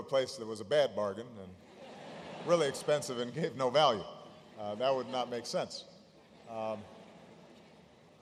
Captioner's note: laughter